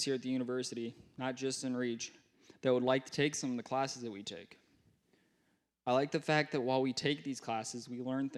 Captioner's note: none